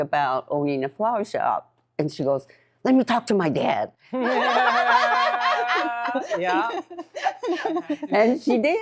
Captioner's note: all laughing